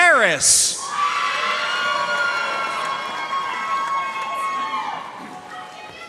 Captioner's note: audience cheering and applauding